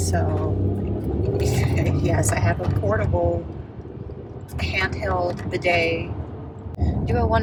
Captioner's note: laughs